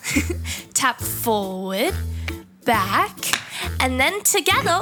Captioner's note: narrator chuckles; foot taps